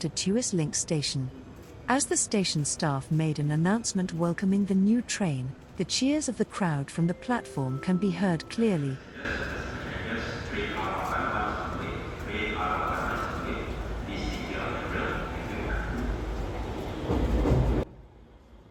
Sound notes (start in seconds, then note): 8.9 station staff's announcement and applause